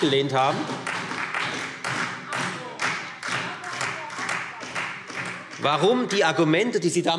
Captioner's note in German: Beifall